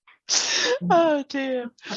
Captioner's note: laughs; chuckles